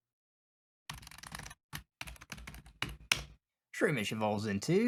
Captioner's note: keyboard Noise